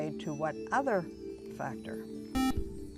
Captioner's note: beep